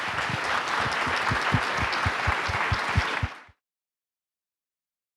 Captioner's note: audience applauding